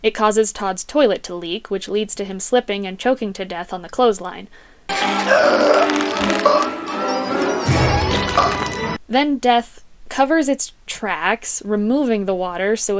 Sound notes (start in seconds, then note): 4.6 Tod gasping for air